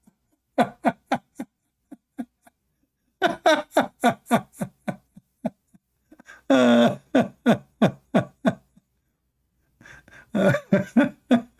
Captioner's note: Ketawa